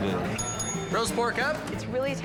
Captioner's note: bell dings